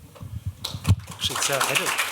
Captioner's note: applause